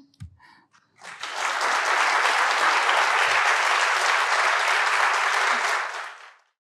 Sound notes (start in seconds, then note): 1.0 audience applauding